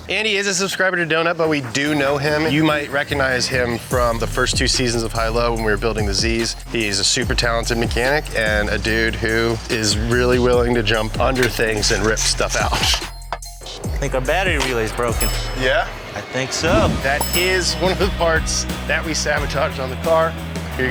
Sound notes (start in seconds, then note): 16.9 bell rings